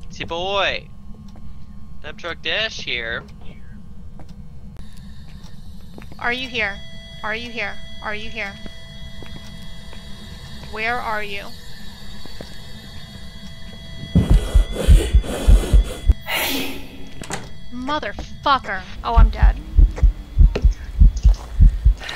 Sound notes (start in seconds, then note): 9.3 EMF beeping; 13.7 ghost stomping and wheezing very close, heartbeats, EMF screaming